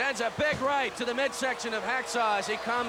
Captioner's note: commentators exclaim